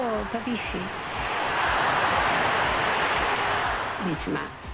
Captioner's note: crowd roars